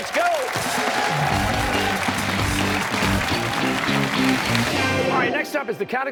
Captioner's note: cheers and applause